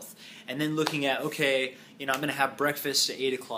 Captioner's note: claps